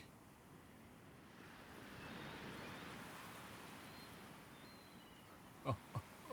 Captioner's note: sound of ocean waves; laughing joyfully